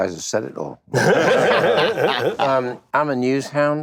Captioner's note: laughter